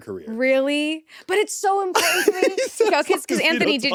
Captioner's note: laughs